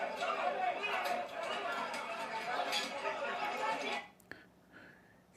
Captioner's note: Tepuk tangan